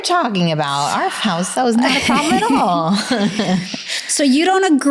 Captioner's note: chuckling